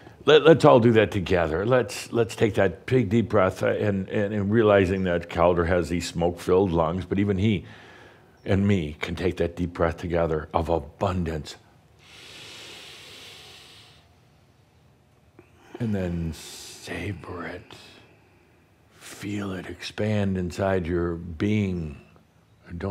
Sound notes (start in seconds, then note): 12.0 Adamus takes a deep breath